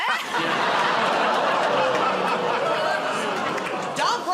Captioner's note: laughter; audience gasps, groans